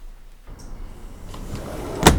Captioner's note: door closes